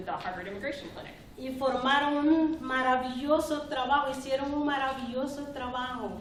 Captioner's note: speaking spanish